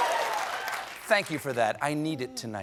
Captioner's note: cheers and applause